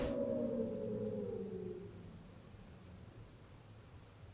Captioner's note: wind howls